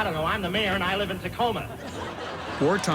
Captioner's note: laughter